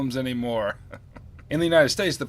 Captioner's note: laughs